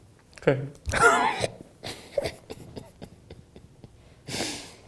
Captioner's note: laughing